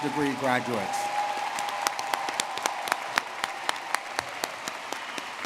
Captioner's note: audience clapping and cheering